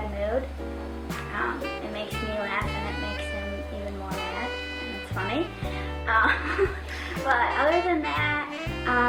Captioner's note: laughing